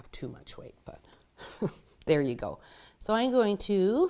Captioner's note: chuckles